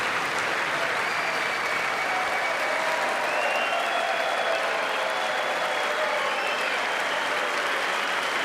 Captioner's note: applause